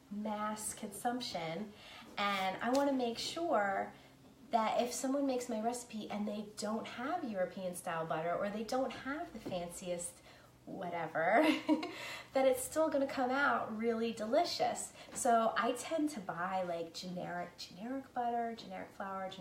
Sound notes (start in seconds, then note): 11.5 laughing